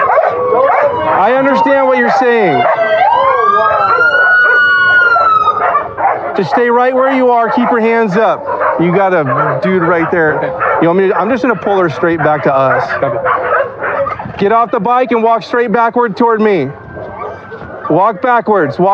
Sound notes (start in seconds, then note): 3.6 sirens